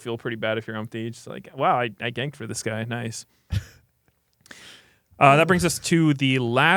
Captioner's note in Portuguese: risos